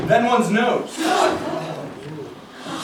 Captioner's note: gasps